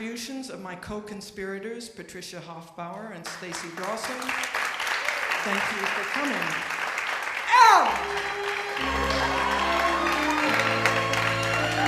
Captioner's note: shouts